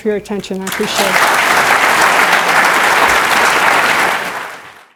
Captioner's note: applause